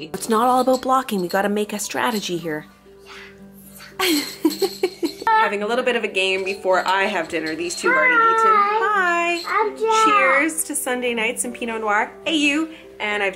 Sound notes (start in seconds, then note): 4.0 laughs